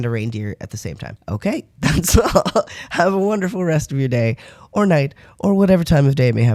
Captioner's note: laugh